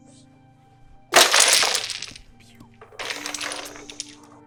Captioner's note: toy crashes